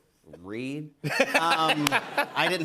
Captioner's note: laughter